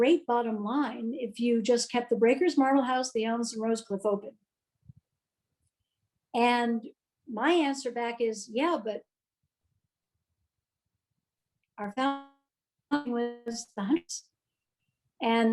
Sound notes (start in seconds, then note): 9.3 audio cuts out